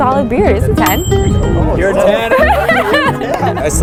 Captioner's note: laughter